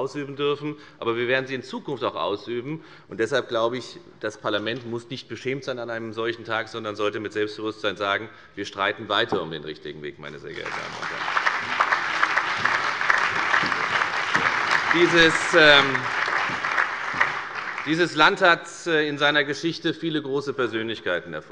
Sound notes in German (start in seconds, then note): 10.5 Beifall bei der FDP, der CDU, der SPD und dem BÜNDNIS 90/DIE GRÜNEN